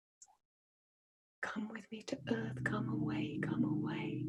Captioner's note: chants